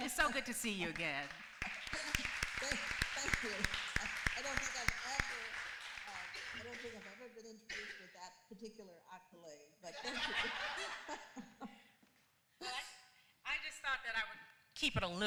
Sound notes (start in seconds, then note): 1.5 applause; 11.5 laughs